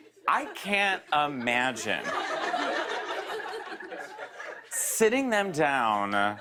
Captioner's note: laughter